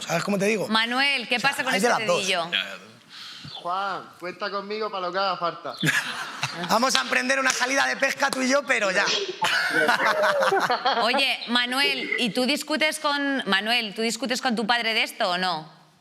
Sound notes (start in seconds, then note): 5.8 laughs; 9.1 they laugh